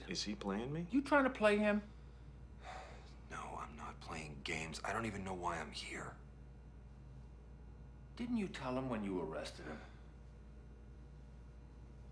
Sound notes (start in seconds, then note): 2.6 Jason sighs